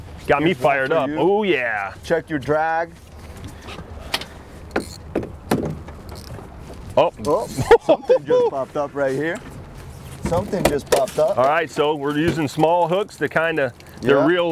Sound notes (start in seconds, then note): 7.4 laughs